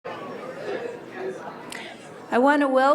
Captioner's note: crowd chattering